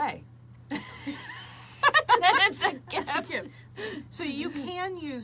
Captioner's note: both laughing